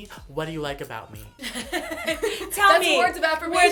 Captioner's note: laughter